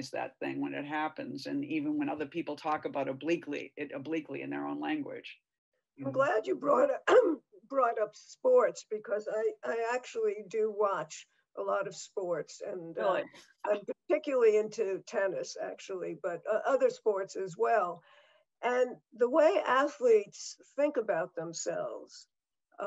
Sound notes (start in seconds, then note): 6.8 clears throat